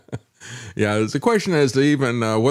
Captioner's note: laughs